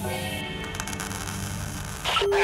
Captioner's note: static; Engineer Joe on loudspeaker